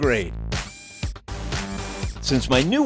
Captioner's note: electric screwdriver sounds